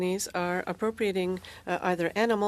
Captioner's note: speaking french